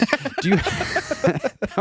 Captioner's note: laughing